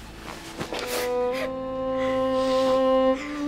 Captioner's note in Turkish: Mavi ağlıyor